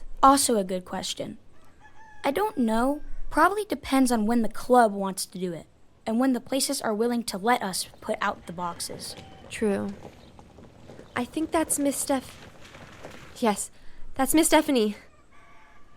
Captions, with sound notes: Also, a good question. I don't know. Probably depends on when the club wants to do it and when the places are willing to let us put out the boxes. True. [car approaching] I think that's Miss Steph- Yes, that's Ms. Stephanie.